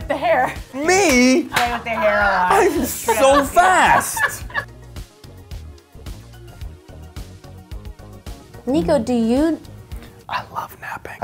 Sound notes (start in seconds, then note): 2.5 laughter